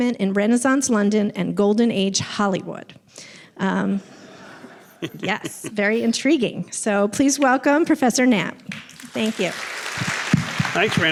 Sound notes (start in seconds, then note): 4.1 audience laughing; 8.7 audience applauding